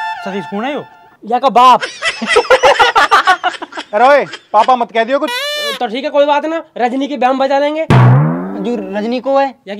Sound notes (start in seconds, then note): 1.9 laughing